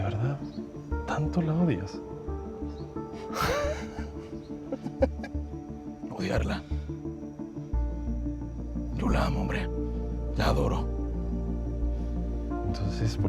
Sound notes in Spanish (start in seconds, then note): 4.6 Risas